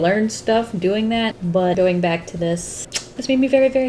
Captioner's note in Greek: Σμουτς